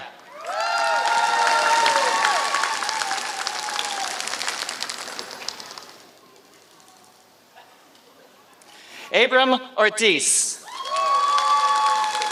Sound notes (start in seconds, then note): 0.2 applause